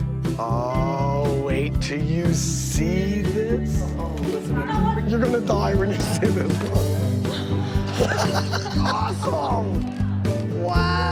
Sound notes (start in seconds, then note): 8.2 laughs